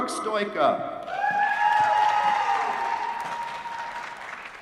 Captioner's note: applause